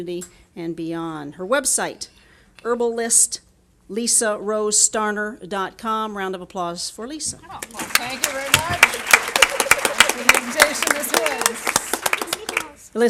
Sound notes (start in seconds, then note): 7.6 applause